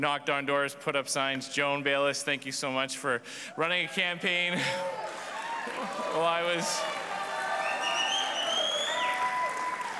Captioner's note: cheers and applause